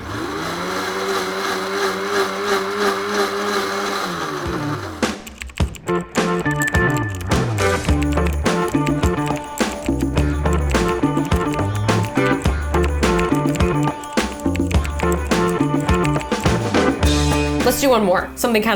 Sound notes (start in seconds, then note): 0.0 blender whirring; 5.1 keys clicking; 5.1 lively music